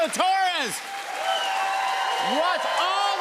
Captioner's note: cheers and applause